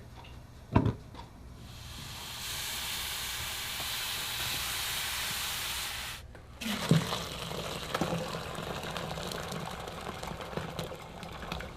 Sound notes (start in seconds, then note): 1.6 gas flares up; 1.6 boiling; 6.6 sloshing